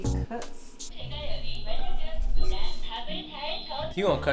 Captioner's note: foreign language